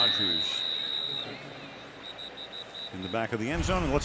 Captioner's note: whistle